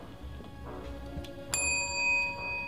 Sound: bell sound

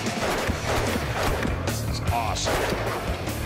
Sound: gunfire

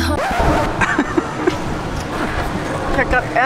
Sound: laughs

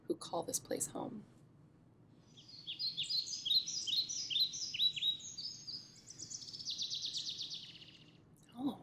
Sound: bird noises

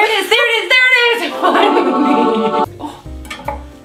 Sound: heavenly music; both laugh

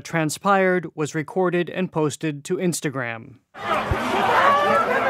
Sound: shouting

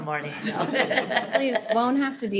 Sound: all laughing

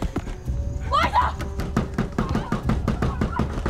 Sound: door banging

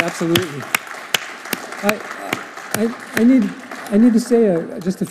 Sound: audience applauding

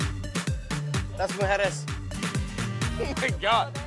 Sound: speaking foreign language

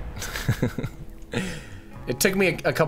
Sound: laughing

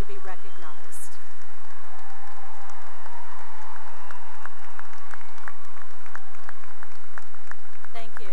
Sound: cheering and applause

